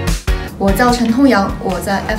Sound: Mandarin

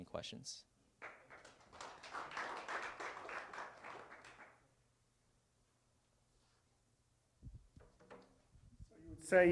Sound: applause

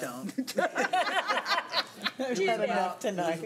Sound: women laughing

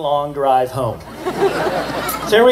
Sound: laughter

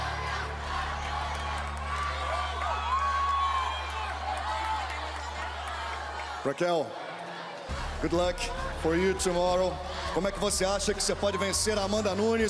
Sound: cheering

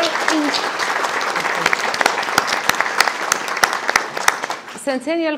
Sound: audience applauding

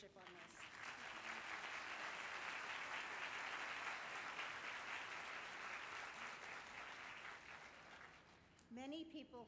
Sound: applause

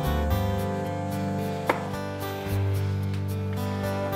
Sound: phone buzzing

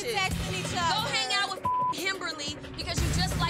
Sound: beep

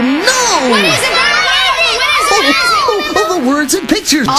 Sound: kids chatter

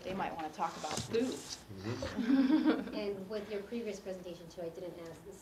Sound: laugh

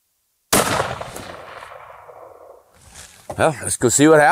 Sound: firearm shooting

